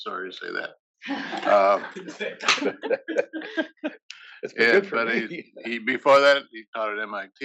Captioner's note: laugh